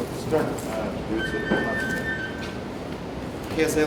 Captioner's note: notification tone